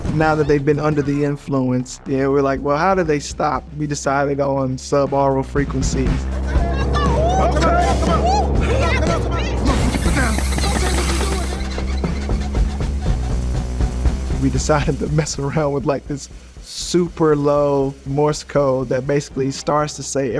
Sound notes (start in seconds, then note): 9.0 passengers yelling; 10.7 tires screeching drowns out speakers; 12.9 intense music